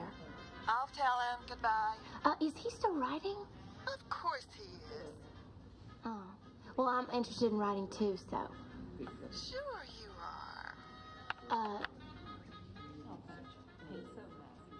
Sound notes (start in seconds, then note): 11.0 line clicking